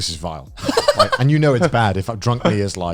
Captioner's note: chuckles